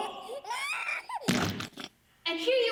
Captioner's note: baby crying; splat